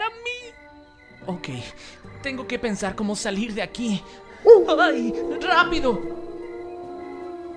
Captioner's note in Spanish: aullido